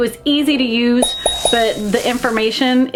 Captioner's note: bell dinging